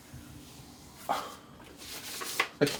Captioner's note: sigh